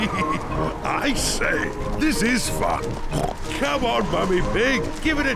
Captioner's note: chuckles